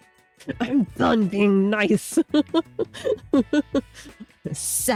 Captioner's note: laughs